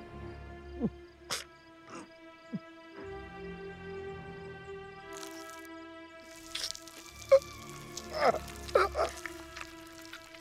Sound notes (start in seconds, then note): 0.8 whimpering; 8.0 grunting